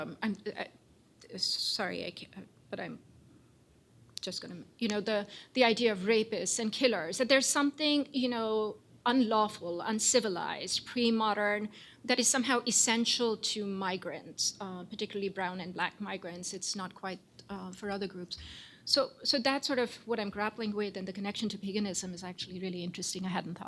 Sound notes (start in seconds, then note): none